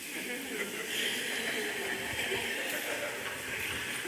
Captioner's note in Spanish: Risas